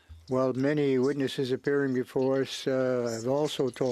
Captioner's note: speaking French